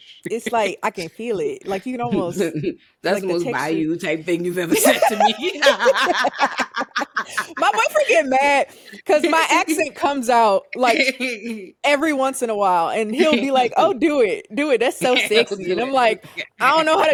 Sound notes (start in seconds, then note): 4.7 laughing